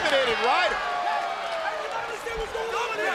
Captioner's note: crowd cheering